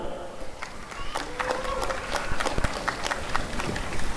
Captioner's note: applause and cheering